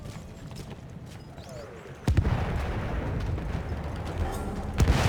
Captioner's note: gun fires